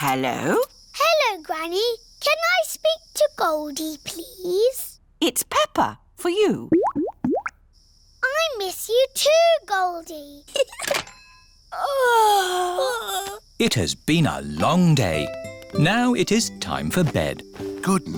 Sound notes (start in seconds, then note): 6.7 bubbling; 10.5 giggles; 11.7 both yawn